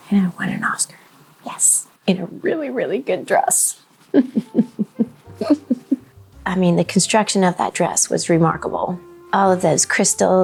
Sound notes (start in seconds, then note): 4.1 person laughing